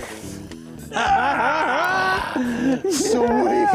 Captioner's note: both laugh